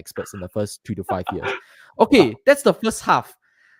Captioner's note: laughs